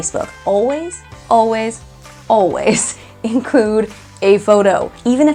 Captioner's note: laughing